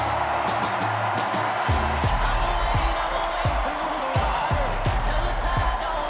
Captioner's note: cheers and applause